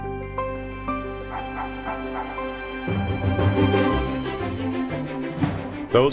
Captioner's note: light music; spirited music; barking